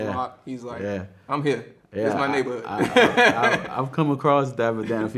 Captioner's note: laughs